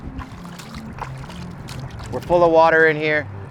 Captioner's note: water splashes